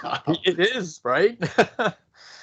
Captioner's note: chuckles